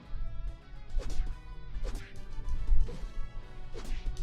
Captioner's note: fighting sounds